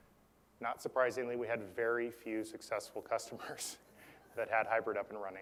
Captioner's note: laugh